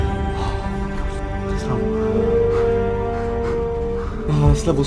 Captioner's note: frantic Panting